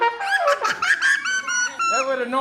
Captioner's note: children laughing